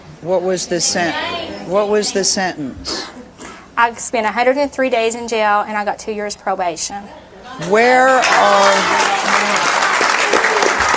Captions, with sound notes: (audience scowling) What was the sentence? I spent a 103 days in jail and I got two years probation. (audience clapping)